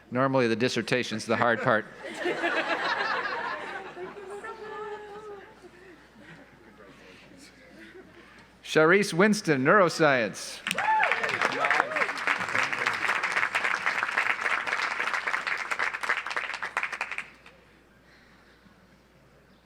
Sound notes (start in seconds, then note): 1.4 audience laughs; 10.6 audience applauds